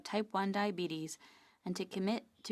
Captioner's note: speaking French